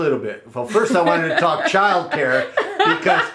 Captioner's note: laughs